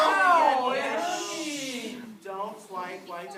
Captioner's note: shushing